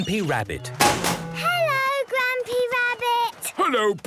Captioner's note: chrashing